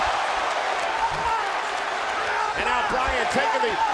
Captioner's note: crowd cheering